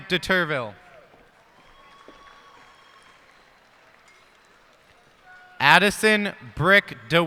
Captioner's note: cheers and applause